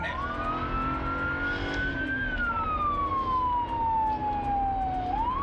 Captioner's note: cruiser engine revving